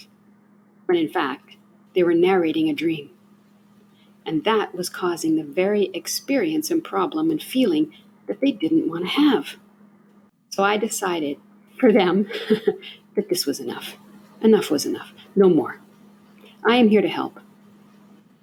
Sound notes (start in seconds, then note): 12.2 haha